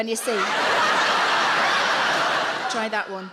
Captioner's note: audience laughs